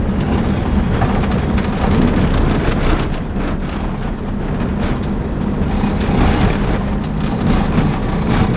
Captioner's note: crunching car sounds in the background